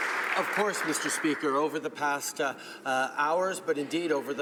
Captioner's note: applause